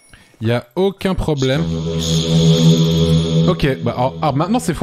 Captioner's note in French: Voix bizarre avec réverbe